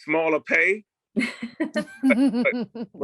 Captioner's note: laughter